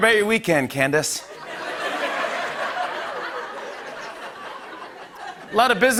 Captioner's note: laughter